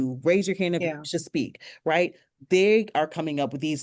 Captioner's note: speaks faintly